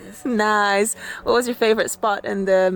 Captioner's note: laughs